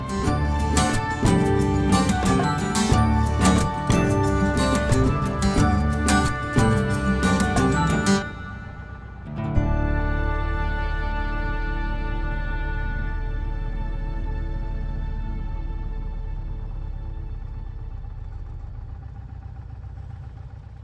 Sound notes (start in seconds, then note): 0.2 bright intriguing music; 14.5 engine rumbling softly